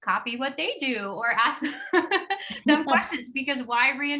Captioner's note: laughs